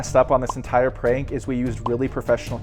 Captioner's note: effect popping